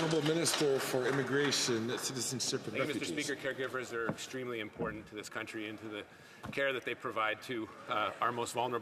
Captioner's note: some Applause